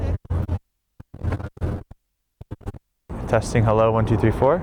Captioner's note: audio distorts